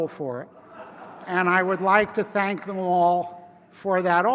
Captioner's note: laugh